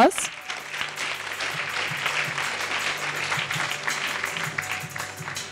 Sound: soft instrumental music; audience applauding

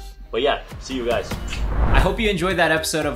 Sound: lips smack

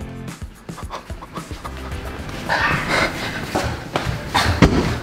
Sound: heavy breathing

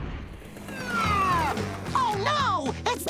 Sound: siren wailing

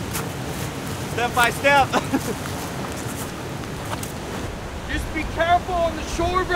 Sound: laughs

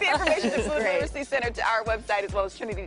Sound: laughter

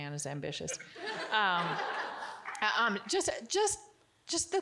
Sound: audience giggling

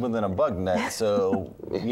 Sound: giggling

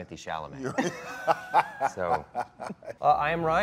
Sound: Gal and Dwayne laughing

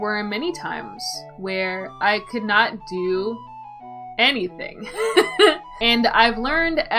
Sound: laughs

